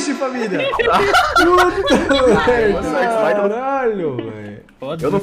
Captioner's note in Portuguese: risos